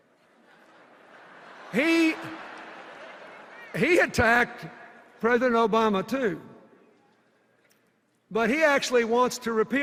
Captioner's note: laughter